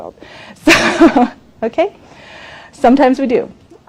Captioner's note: laughs